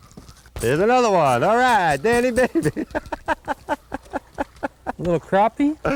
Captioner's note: laughter